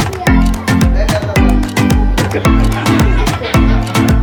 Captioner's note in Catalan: riures